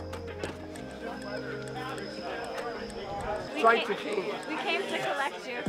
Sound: people chattering

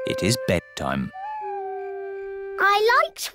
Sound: owl hoots

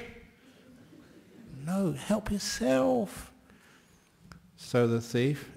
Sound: yelling; quietly

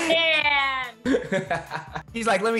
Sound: laughing

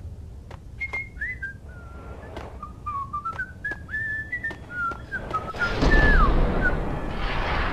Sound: whistling

